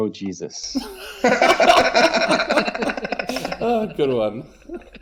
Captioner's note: laughs